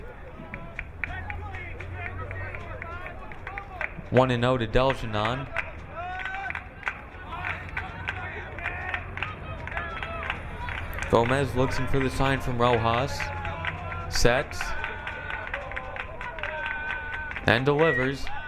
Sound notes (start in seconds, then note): 6.4 crowd clapping